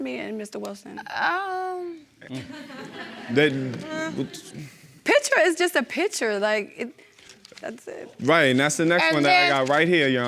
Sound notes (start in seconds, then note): 2.4 audience laughing; 2.6 stammering